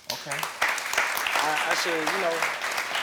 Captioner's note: audience applauding